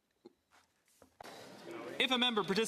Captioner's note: speaking French